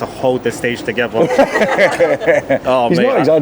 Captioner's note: everyone laughs